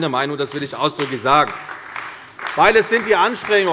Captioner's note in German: Beifall bei der CDU